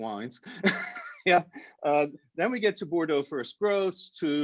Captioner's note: laughs